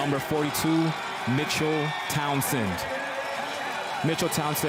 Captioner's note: cheers and Applause